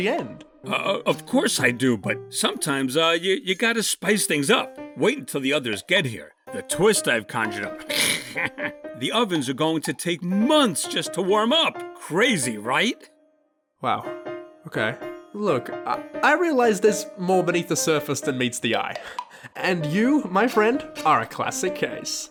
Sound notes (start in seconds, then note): 7.8 snickers